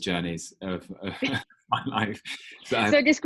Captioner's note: chuckling